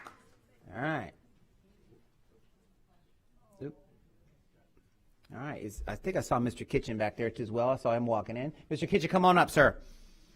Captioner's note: applause